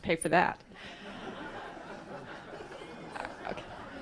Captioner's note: laughs